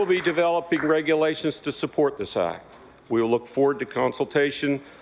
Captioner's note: applause